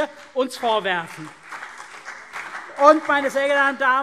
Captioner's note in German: Beifall CDU und BÜNDNIS 90/DIE GRÜNEN